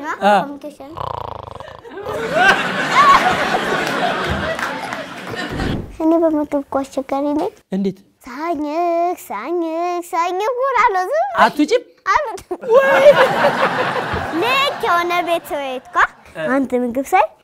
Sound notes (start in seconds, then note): 0.9 snoring; 1.8 laughter; 12.6 laughter